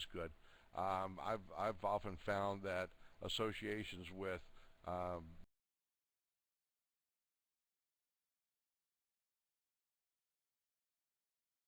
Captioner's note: audio drops